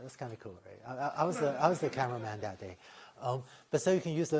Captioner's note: laughter